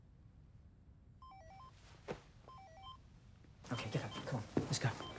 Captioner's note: cell phone ringing